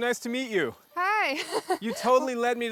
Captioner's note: laughs